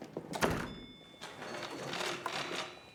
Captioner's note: school bell rings